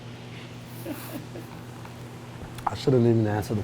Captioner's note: camera Operator chuckles